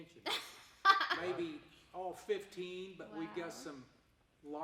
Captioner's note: laughing